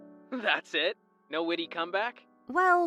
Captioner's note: phone vo